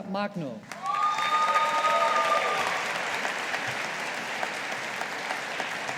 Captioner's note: audience applauding